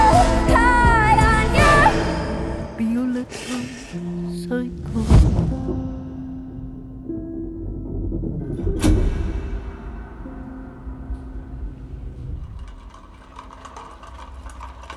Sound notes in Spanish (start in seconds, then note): 11.1 traqueteo